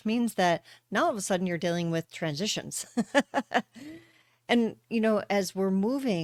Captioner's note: laughter